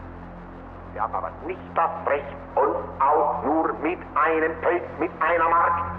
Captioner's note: Himmler continues speaking German